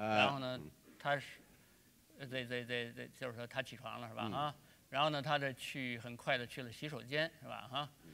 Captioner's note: speaking in Chinese